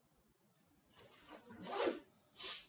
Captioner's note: bag zipping